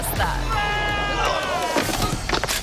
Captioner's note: biker screams; biker groans; biker thuds